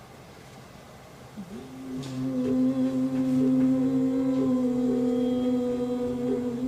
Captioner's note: all chanting